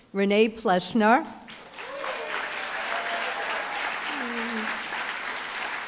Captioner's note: applause, cheering